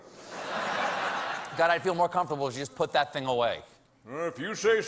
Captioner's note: laughter